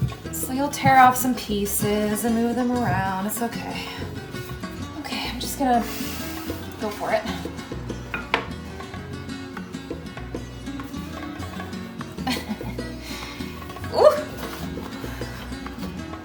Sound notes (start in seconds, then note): 12.1 chuckles